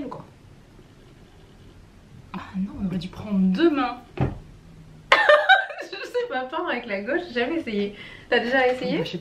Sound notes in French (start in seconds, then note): 5.1 rires